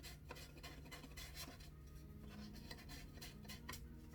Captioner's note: tool scratching